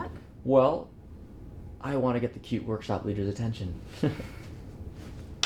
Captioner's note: Elliot laughs